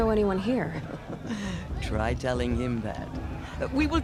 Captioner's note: laughs